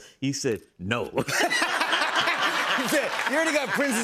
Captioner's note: laughter